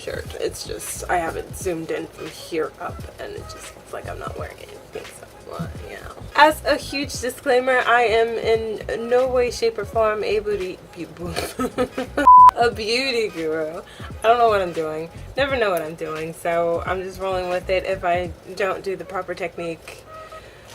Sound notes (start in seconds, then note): 11.2 laughs; 12.2 beep